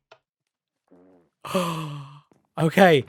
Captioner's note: gasps